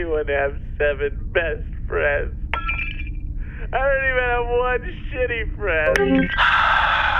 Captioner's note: sobbing